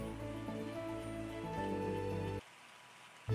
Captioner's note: sounds of a little glade